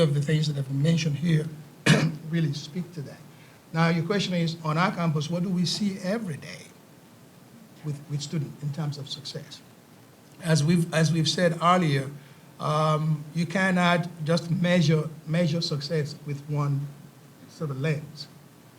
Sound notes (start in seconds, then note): 1.8 coughs